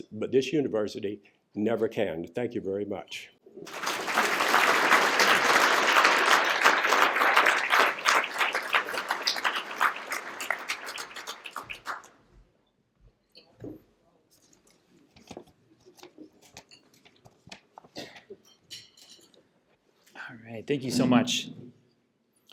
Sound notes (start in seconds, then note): 3.6 applause